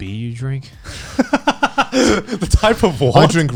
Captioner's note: laughs